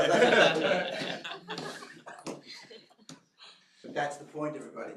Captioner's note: laughter